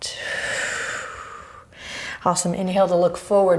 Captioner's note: deep breaths